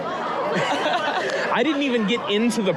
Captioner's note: both laughing